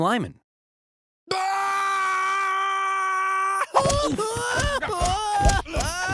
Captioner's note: screaming and crying